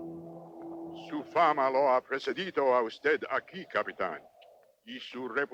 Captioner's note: Victorio speaks Spanish